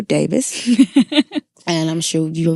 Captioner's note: laughing